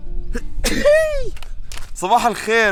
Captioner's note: sneezes